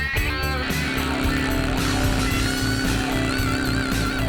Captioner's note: blimp motors